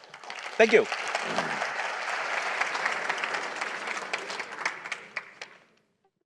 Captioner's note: applause